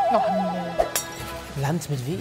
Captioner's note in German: Klirren